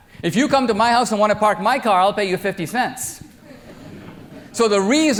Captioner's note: audience laughter